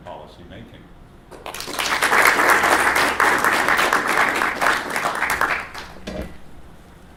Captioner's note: applause